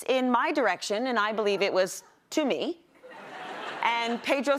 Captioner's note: laughter